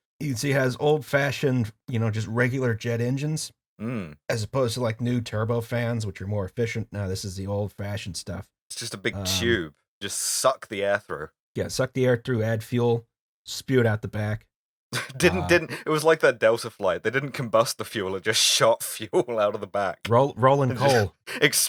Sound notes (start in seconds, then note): 14.9 laughing